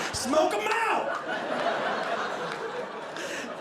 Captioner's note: audience laughing